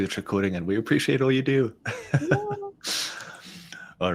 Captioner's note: chuckles